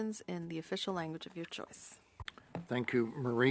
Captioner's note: speaking French